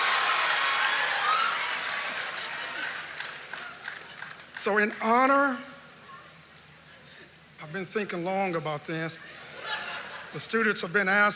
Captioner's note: laughter